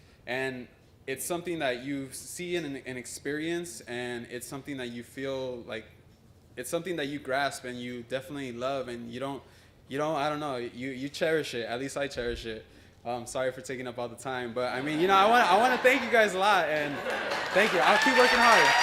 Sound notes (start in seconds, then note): 14.6 laughter; 17.9 applause and Cheering